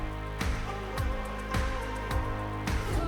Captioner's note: gentle vocalization